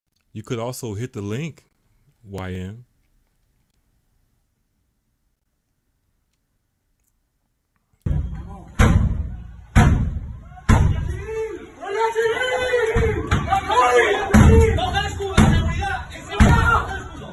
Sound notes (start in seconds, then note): 8.0 drumming; 8.0 yelling